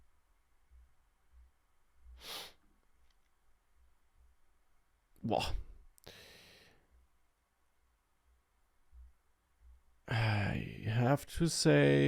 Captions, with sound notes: (sniffs) Wah. I have to say, if you wanna find something quickly, somehow I fail to do that with those docs, even though I would not say that they're bad. But again, here I'm in some route/setup code, but how can I redirect if I'm inside of a